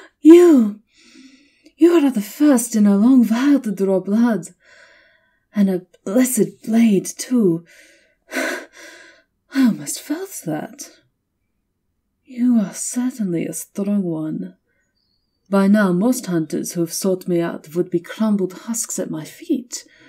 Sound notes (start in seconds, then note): 8.6 exhaling slowly as the wound heals over, a stark red against pale skin; 12.3 her voice fills with slight admiration